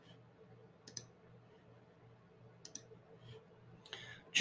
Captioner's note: mouse clicks